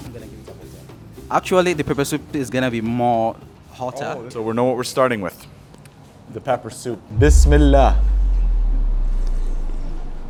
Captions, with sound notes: Actually the pepper soup is gonna be more hotter. - Oh, so we know what we're starting with, the pepper soup. (speaks Arabic)